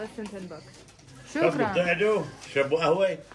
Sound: Arabic

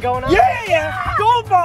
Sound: excited shouts

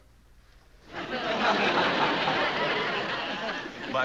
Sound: laughing

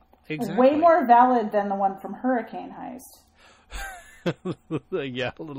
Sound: DJ laughs

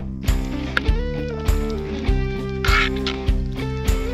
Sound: food sizzling

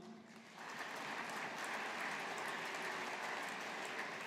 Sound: audience applauding

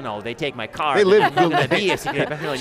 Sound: laughing

